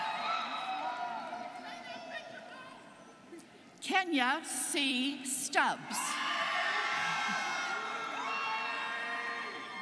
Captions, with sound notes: - Kenya C. Stubbs (students cheering)